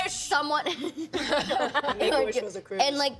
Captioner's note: laughing